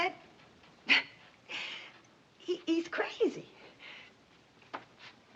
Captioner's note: scoffs